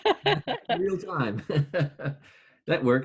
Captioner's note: laughing